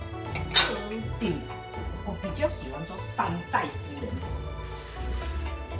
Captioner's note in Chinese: 廣東話